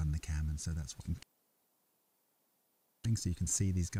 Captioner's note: stream audio cut out